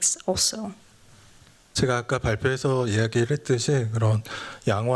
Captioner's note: speaking japanese